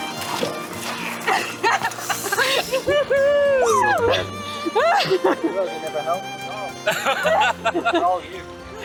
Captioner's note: laughing